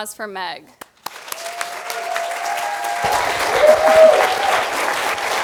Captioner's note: applause